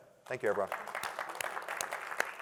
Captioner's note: applause